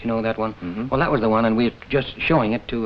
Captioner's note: Ed hums agreeingly